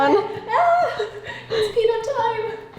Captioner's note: squeals